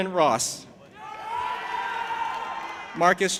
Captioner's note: audience applauding and cheering